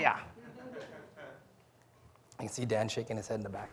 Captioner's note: audience laughing